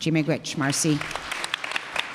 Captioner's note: applause